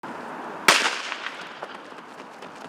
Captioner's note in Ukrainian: пістолетний постріл